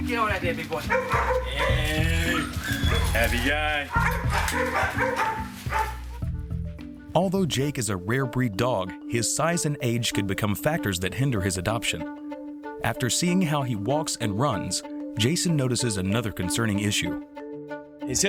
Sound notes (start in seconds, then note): 0.0 soft music; 0.6 dogs barking